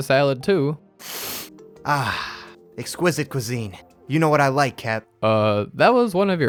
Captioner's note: sniff